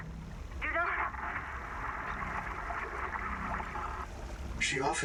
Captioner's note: flooding sounds